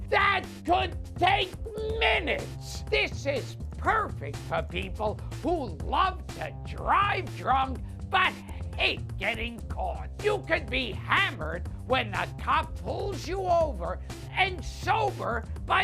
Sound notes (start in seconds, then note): none